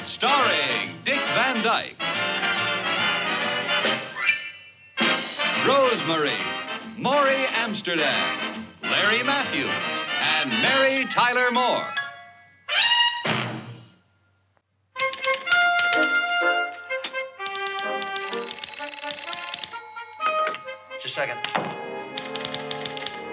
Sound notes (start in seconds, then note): 17.8 phone ringing